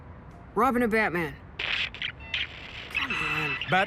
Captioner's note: radio static